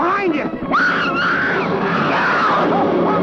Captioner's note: Liz screaming; shouting